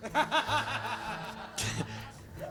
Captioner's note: laughs